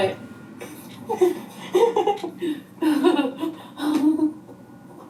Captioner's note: laughs